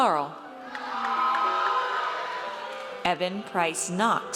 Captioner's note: audience cheers